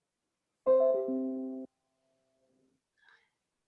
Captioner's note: bell chimes